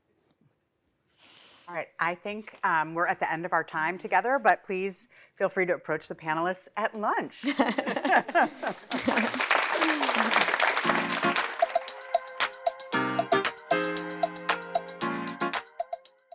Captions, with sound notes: All right. I think we're at the end of our time together, but please feel free to approach the panelists at lunch. [LAUGHTER] [APPLAUSE]